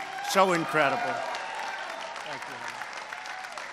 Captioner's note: applause